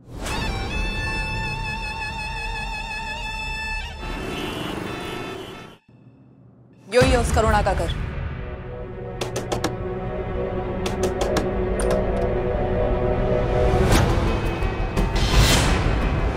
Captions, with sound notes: [tense music] [traffic noise] This is Karuna's house. [Knock on the door] [shocking music]